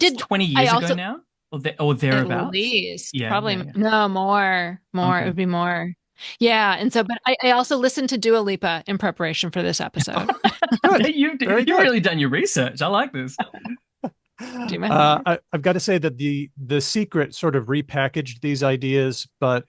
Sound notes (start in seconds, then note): 10.0 laughs; 14.4 laughs